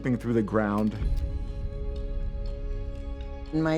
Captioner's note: camera shutter clicks